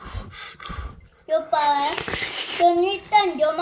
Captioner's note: slurping